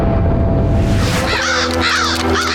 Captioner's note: squawking